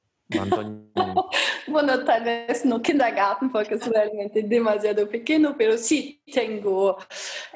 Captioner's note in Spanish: risas